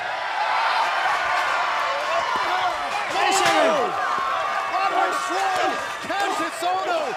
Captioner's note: cheers and applause